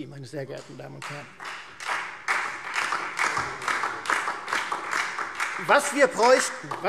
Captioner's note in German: Beifall Freie Demokraten und vereinzelt SPD